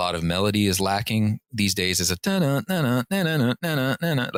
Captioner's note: humming